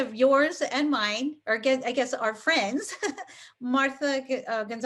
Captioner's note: chuckles